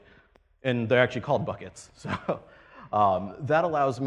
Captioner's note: laughs